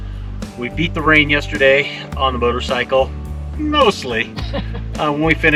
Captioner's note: laughter